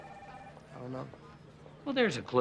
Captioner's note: phone ringing